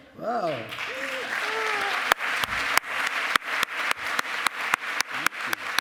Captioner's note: applause